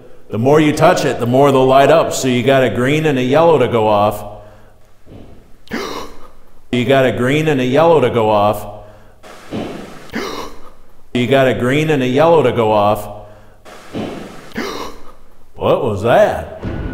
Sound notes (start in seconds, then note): 4.4 gasping; 5.0 thudding; 8.8 gasping; 9.2 thudding; 13.2 gasping; 13.6 thudding